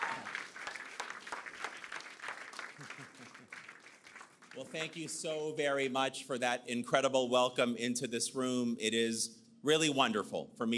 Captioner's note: cheers and Applause